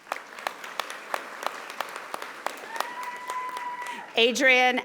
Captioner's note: audience applauding